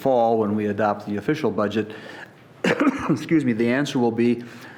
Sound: coughing

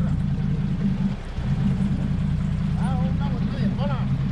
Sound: boat engine idling; speaking in spanish; boat engine idling

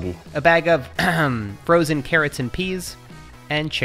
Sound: clears throat

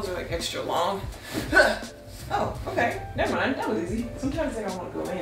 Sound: groans

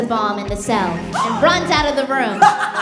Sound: gasps; evil laugh

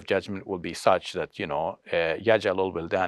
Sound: speaks foreign language

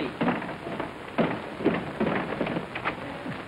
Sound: pounding on door

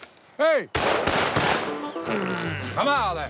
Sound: gunshots

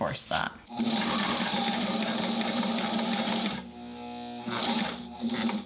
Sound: sewing machine revving

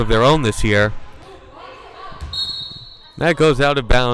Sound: whistle blowing

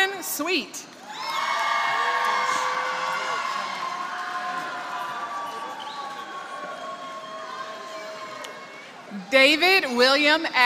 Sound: applause

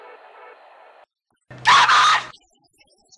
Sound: slapping

